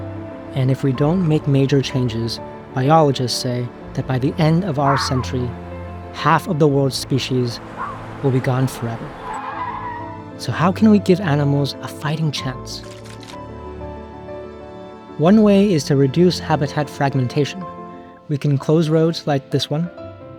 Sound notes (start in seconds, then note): 9.2 car screeches; 12.8 bear shakes off water